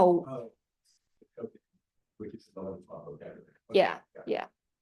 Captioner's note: student speaking faintly off mic